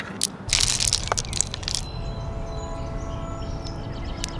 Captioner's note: stones clattering